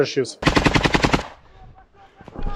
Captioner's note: Russians shouting "Go, go!"